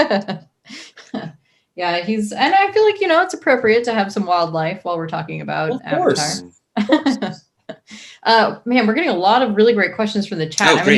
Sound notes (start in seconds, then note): 0.2 laughs; 5.7 chuckles